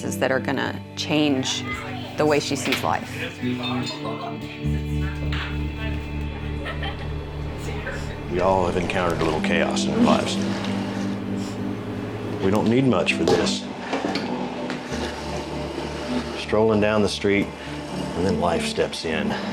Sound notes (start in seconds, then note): 3.9 people chattering; 3.9 slow soft music; 6.6 giggling